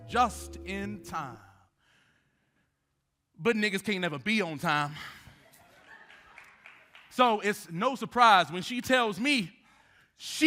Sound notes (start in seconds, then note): 5.4 audience laughing